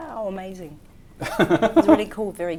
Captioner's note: laughs